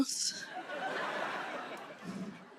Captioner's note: laughter